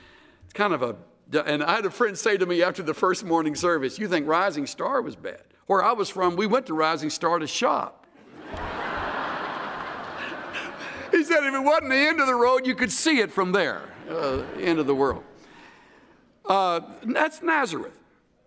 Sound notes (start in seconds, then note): 8.2 laughter